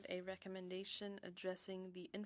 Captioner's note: speaking French